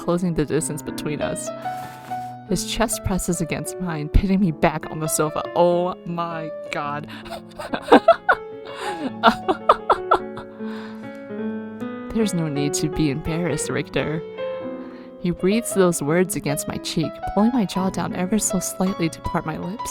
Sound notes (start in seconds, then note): 8.7 laughs; 8.7 hyperventilaughing